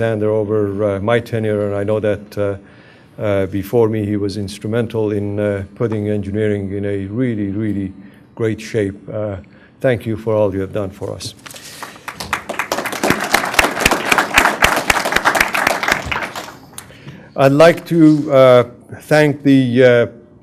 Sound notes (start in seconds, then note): 13.2 applause